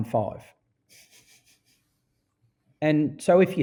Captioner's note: laughing